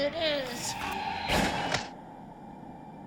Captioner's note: gun firing